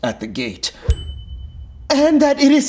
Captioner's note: bell dinging